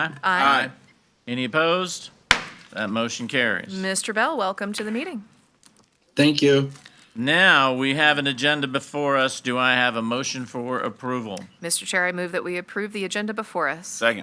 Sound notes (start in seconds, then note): 2.3 gavel bangs; 6.3 bell